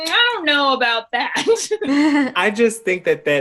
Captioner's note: chuckle